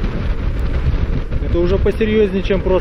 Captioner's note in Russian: шум ветра